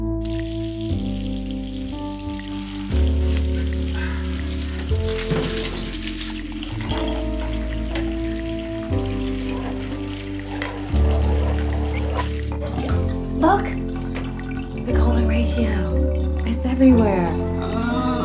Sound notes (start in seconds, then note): 0.8 water running; 3.3 quirky music; 12.9 water stops